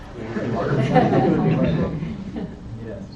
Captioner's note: audience laughs